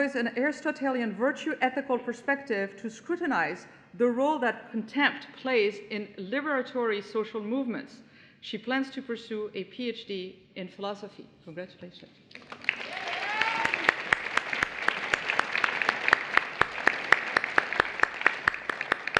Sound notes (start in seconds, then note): 12.3 applause